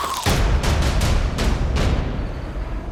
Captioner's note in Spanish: Ruido al quebrar hueso